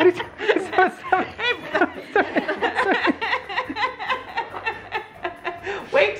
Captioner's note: laughing